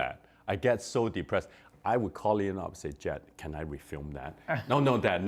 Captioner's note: laughter